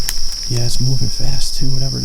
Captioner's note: leaves rustling